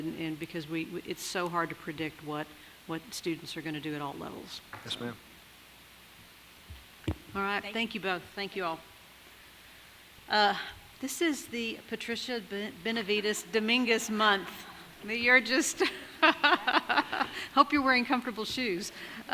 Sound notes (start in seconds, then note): 16.8 laughs